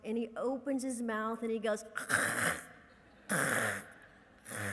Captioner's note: hacking noises